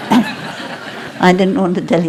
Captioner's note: laughter